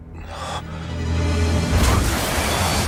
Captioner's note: Jacque speaking in foreign language; Philipe gasps; motorcycle smashing